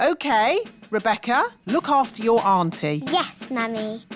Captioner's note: none